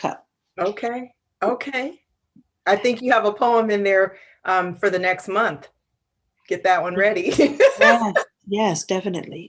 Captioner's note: laughs